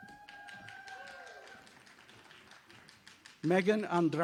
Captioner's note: audience applauding